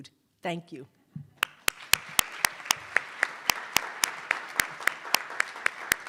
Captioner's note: attendees applauding